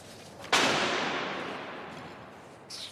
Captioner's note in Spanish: tablón golpea con eco